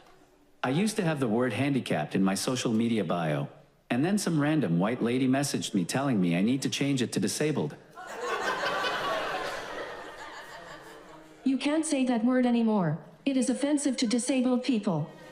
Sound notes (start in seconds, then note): 8.0 audience laughs